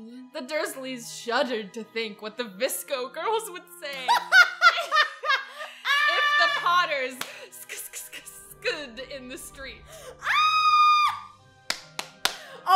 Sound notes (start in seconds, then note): 4.0 laughs; 10.2 screams